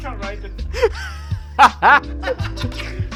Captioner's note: laughing